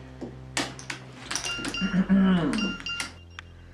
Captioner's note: ding ding